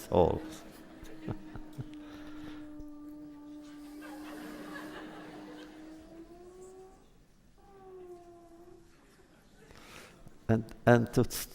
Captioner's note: laughter